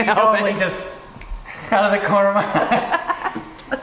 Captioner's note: laughing